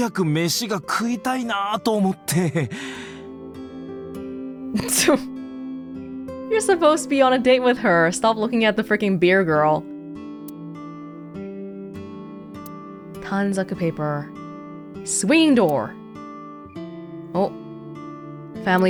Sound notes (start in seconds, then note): 4.4 scoffs